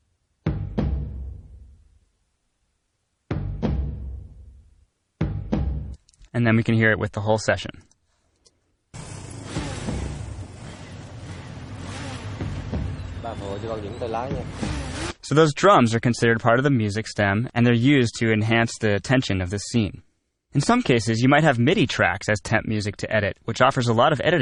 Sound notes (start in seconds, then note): 0.3 drums playing; 10.5 vietnamese dialogue; 11.1 drums playing